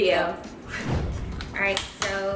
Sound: swoosh

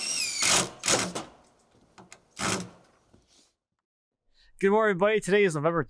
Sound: drill squealing loudly; wood rustling loudly

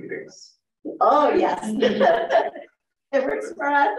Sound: laughs

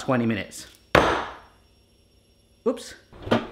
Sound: clunking sound

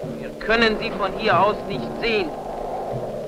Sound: German spoken audio

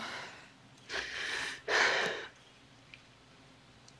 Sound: sobs

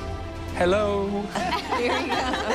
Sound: laughing

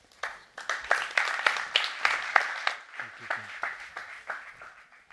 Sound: audience clapping

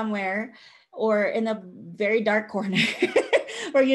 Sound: laughs

